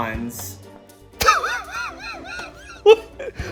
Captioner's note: laughing